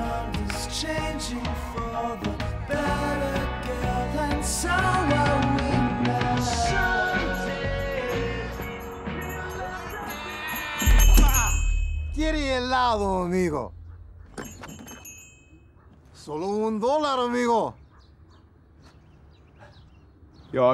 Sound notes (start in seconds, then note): 9.7 music fades; 10.9 bell chiming; 11.9 Keith grunts; 12.7 foreign language; 14.3 bell chiming; 16.9 foreign language